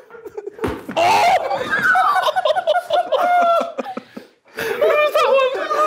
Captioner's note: group laughing continues; yells